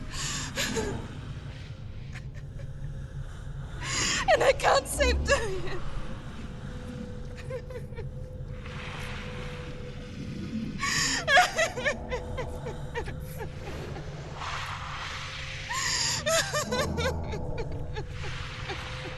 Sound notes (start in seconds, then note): 10.9 crying; 16.2 crying